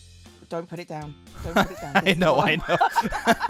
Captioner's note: laughs